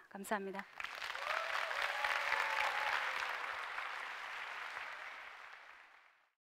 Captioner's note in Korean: 박수와 환호